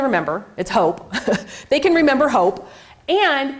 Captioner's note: chuckles